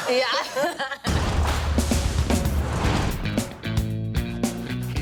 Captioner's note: laughing; door slams; upbeat music